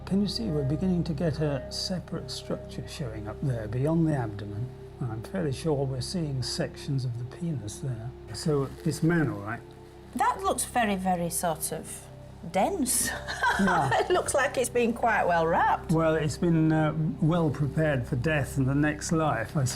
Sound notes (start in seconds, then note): 13.2 laughing